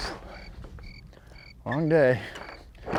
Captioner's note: crickets chirping